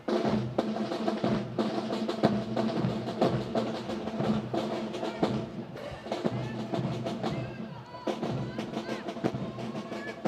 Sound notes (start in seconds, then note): 5.6 Officier crie un ordre